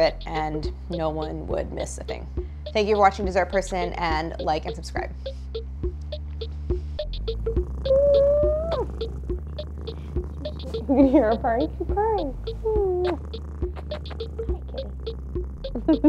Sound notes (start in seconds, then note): 7.3 cat purring; 15.7 Claire laughs